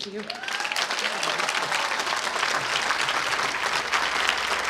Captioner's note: applause